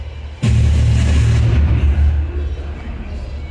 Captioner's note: radio statics